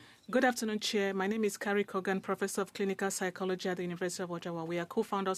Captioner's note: speaking French